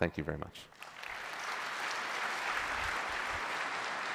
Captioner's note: applause